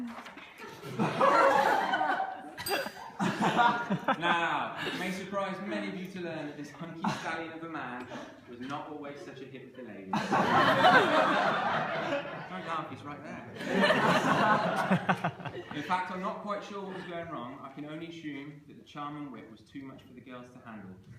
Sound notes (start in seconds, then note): 0.6 laughter; 10.1 laughter